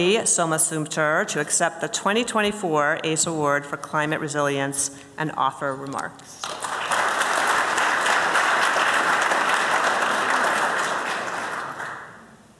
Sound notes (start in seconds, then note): 9.8 applause